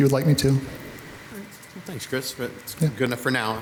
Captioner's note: participant speaks faintly